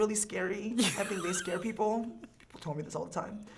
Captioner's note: laughing